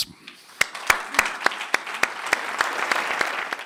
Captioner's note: applause